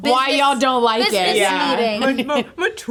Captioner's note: chuckling; laughing